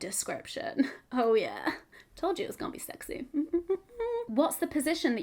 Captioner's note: hums